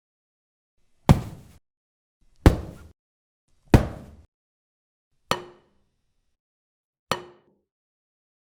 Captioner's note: hitting sound